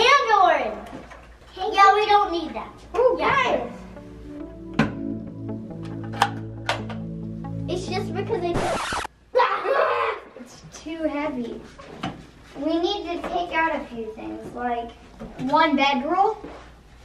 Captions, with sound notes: - And orange. Yeah, we don't need that. It's just because it's (record scratching) (yelling) - It's too heavy. We need to take out a few things, like one bed roll,